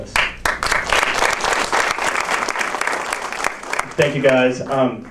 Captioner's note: audience applauds